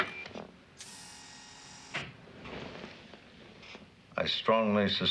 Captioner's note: door swooshes